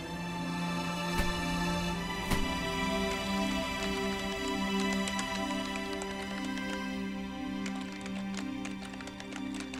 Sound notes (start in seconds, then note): 3.6 keypad beeping